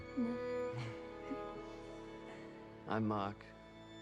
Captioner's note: both laughing